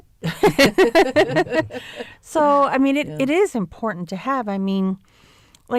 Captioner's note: laughter